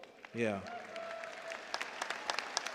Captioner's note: cheers and applause